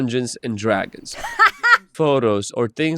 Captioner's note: laughs